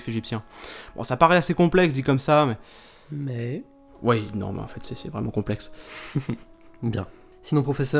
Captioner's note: laughs